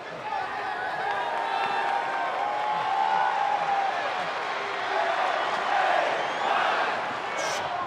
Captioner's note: crowd cheers